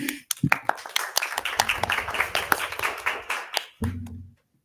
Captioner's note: audience applause